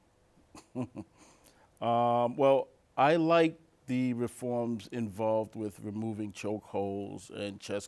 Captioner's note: chuckles